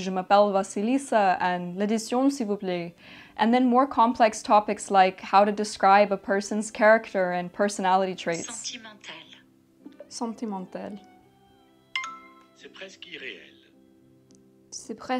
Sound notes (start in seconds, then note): 8.7 Babbel speaking French; 8.7 soft calming music; 10.2 speaking French; 11.9 bell tone; 12.6 Babbel speaking French; 15.0 speaking French